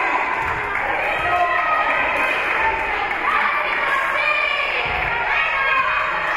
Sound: spectators cheering and applauding; spectators shouting encouragements

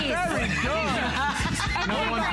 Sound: laughter

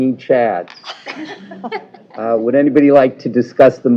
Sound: laughter

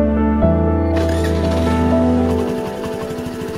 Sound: scooter ignites & starts

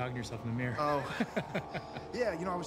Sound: laughs

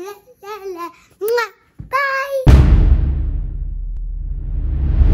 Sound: kisses

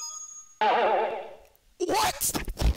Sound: boing

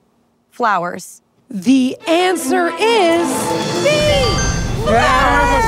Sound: bell dings

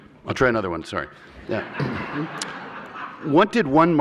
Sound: laughter

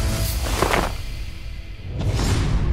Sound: splattering

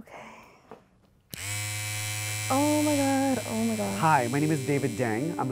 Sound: sheers buzzing

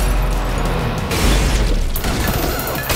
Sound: crashing

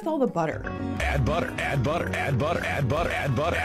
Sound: voiceover

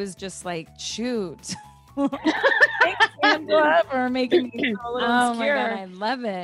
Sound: laugh

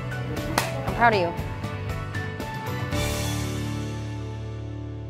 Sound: clap

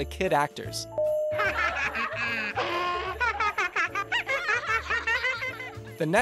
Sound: laughter

